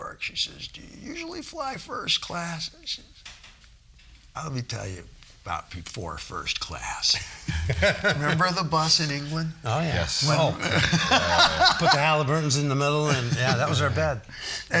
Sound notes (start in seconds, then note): 7.3 all laughing